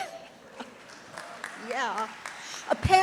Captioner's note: audience applauds